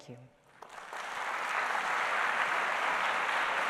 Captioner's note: applause